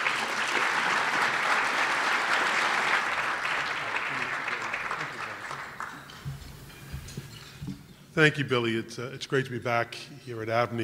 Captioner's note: applause